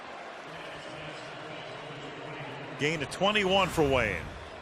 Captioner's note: pa announcement